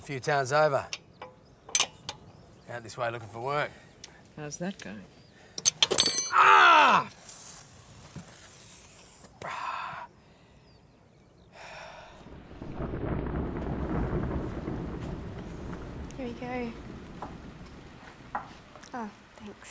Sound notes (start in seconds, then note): 5.6 tire lever clatters; 11.5 exhales